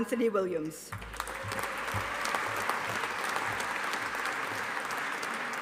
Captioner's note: audience applauding